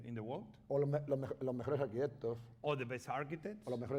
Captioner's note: speaking spanish